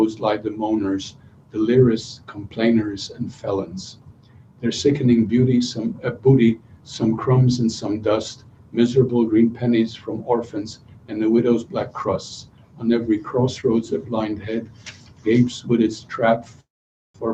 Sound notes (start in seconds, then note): 5.5 non-english speech